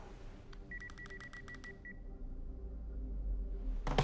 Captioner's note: suspenseful music; beeping; suspenseful music